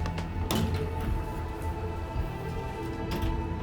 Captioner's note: door creaking